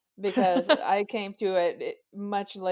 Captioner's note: laughs